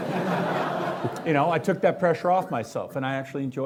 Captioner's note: laughing